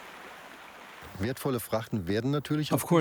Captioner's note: speaking German